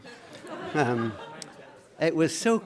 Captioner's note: laughter